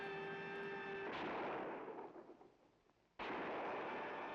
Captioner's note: alarms blaring; guns banging